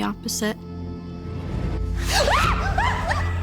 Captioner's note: screaming